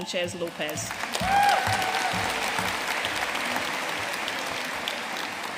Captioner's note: audience cheering and applauding